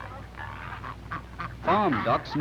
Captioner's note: ducks honking